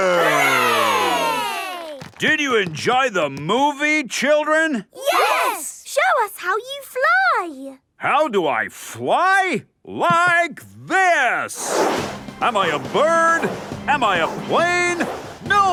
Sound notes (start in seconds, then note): 11.5 whooshing